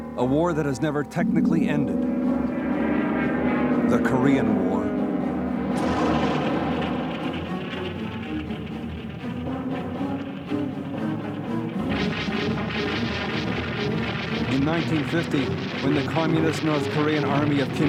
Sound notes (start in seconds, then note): 2.7 airplane buzzing; 6.0 explosion blasting; 8.2 dramatic music